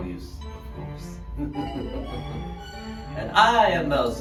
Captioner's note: he chuckles